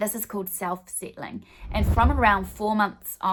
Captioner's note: swooshing